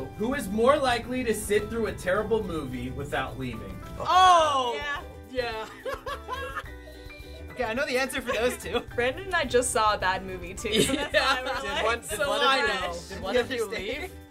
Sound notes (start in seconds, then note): 5.6 laughs